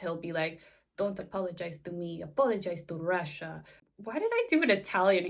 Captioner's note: in a bad Russian accent